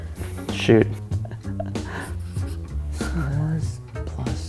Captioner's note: chuckles